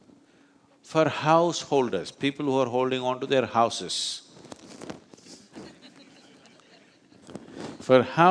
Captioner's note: few laugh